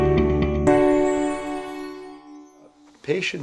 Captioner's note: piano And Violin Music; chimes